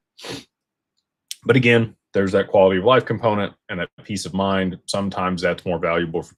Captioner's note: snorts